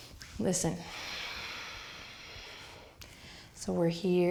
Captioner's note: exhaling